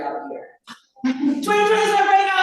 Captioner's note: laughter